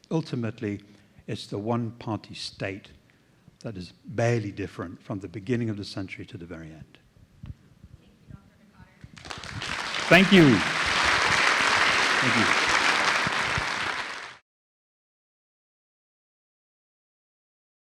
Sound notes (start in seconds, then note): 11.0 applause